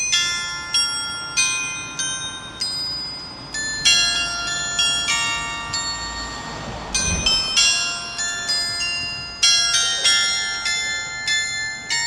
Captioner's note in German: glocke